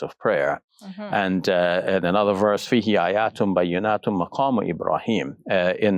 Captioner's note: speaking foreign language